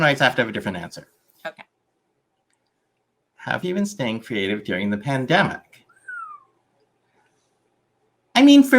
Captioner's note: whistles